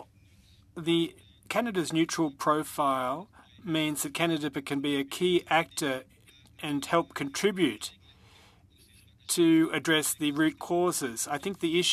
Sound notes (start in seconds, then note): 2.1 speaking French